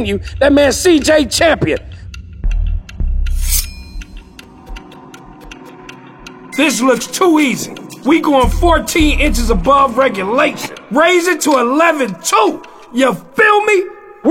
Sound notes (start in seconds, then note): 3.4 elimination sound